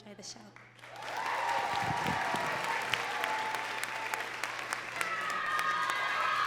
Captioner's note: crowd cheering and clapping